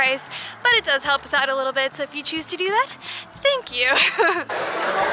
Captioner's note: laughter